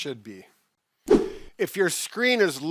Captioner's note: whooshing